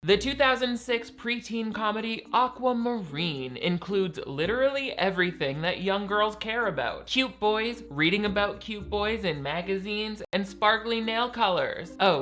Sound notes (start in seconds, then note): none